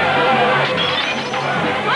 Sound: mob shouting; glass shattering

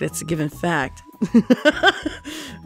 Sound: laughs

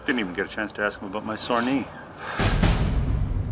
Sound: sighing

